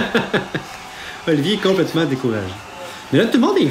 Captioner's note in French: rire